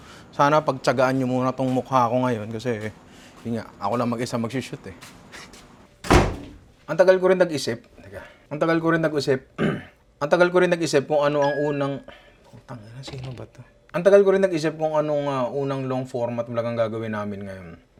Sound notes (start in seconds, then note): 9.5 clears throat; 11.4 phone rings